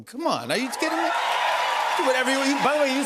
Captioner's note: cheers and applause